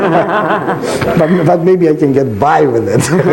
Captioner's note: laughs loudly